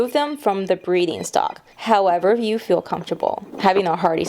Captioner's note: duck quacks